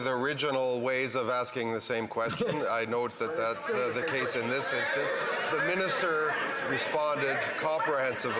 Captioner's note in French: voix de l'interprète